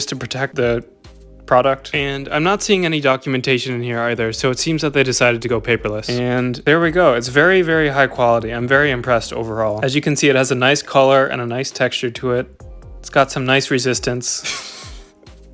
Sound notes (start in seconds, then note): 14.4 weird laughter